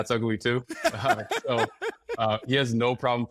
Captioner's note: laughs